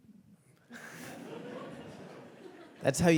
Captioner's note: audience laughing